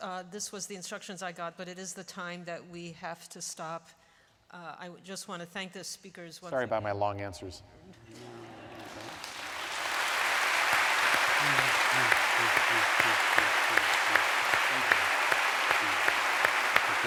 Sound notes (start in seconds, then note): 8.1 laughter; 8.7 applause